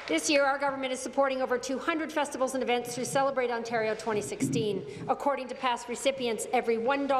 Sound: applause

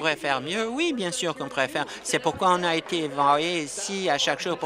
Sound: applause

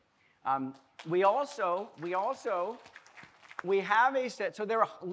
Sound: audience applauding lightly

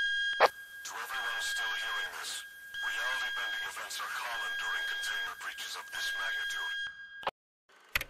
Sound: radio Chattering

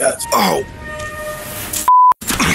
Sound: beep

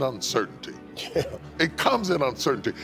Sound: laughs

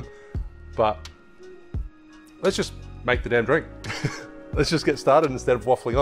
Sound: chuckling

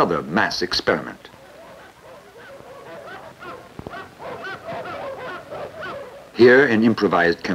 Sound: dogs barking

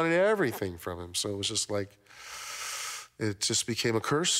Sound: inhales sharply

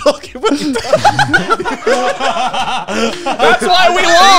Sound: all laughing

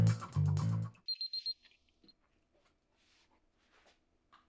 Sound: timer beeping

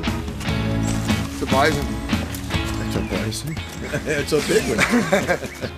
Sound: laugh

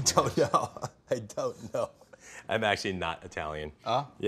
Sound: laughing

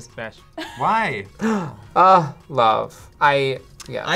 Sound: gasps

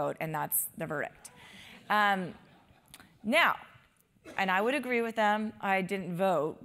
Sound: laugh

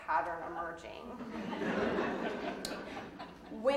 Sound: audience laughing

